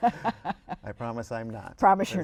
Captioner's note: laughter